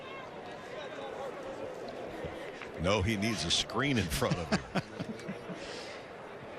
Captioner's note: laughter